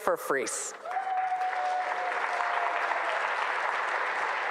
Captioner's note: audience applauding